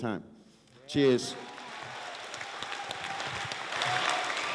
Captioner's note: applause